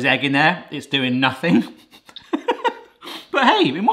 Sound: laughs

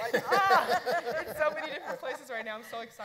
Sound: panelists laughing

